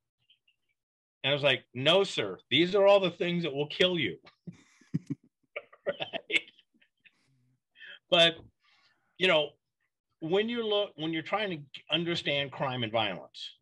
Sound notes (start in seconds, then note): 4.8 both laughs